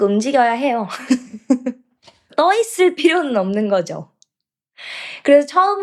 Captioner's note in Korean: 웃음